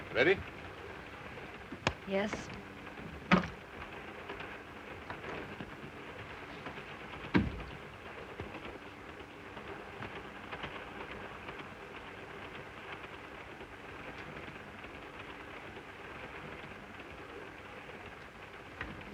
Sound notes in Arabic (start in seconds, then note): 5.1 صوت خشخشة القطار; 7.3 يغلق الباب; 9.3 صوت خشخشة القطار